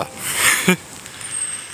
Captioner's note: chuckles